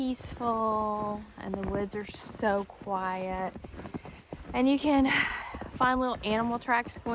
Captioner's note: sighs